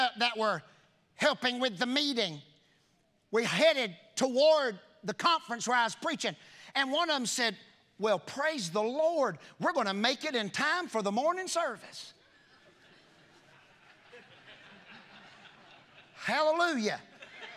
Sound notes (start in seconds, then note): 14.3 congregation laughing